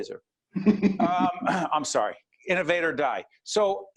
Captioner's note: laughing